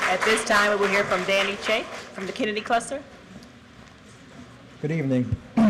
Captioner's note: applause